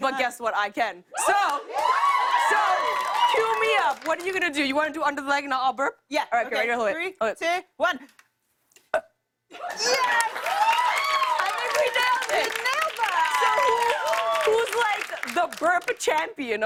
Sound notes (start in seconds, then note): 8.4 burps; 9.6 cheers and applause